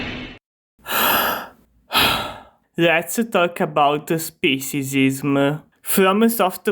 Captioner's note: sigh